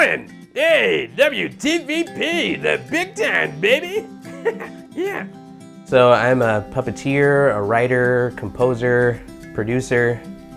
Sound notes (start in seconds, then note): 4.2 laughing